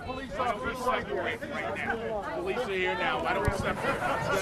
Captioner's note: indistinct shouting